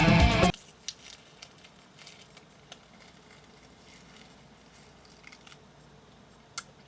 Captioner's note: peeling